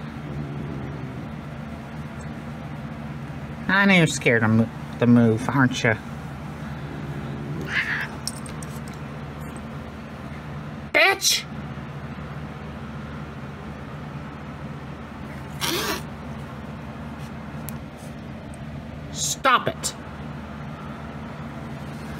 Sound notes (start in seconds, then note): 0.0 Caprice growls; 6.8 Caprice growls and meows; 15.0 Caprice hisses